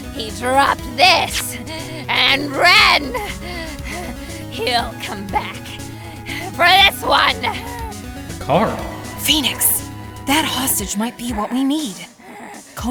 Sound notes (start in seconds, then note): 6.3 huff; 9.5 whispering